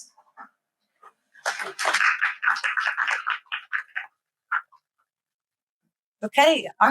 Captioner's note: clapping